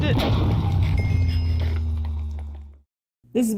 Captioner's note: portal noise